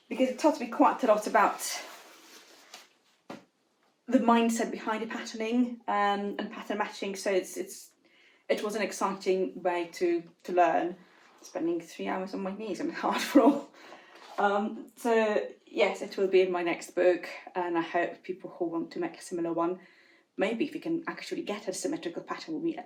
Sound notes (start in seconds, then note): 14.3 giggles